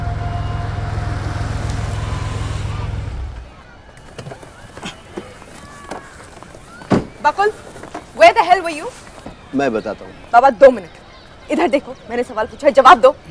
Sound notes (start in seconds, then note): 0.0 Car approaching; 4.1 Car door opens